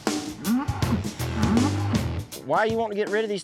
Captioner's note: bull groaning